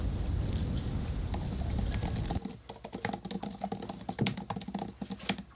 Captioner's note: keyboard clicking